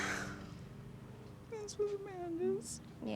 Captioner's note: crying